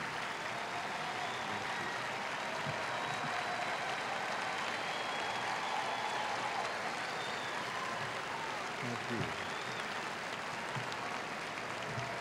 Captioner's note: applause